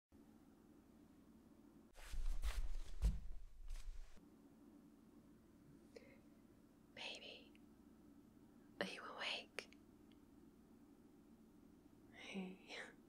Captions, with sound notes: *shuffling footsteps* *whispering* baby... Are you awake? hey